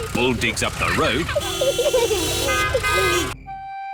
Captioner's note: horns toot